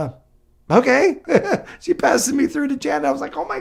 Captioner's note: laughs